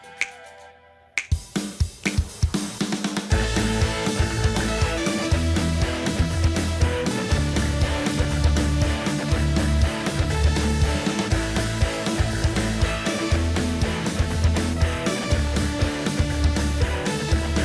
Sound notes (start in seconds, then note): 1.2 snaps finger rhythmically